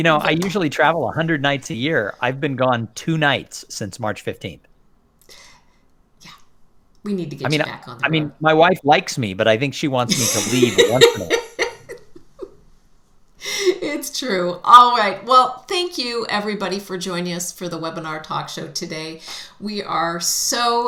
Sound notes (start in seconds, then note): 10.1 laugher